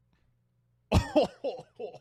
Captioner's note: coughing fit